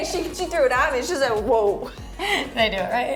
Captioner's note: both laughing